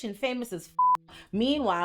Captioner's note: beep